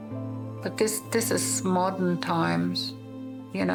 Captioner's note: none